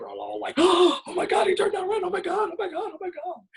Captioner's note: gasps